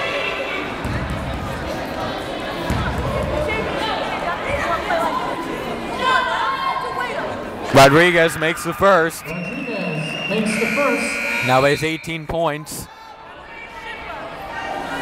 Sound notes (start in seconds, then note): 0.6 yelling